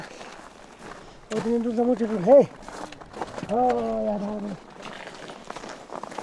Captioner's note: speaking foreign language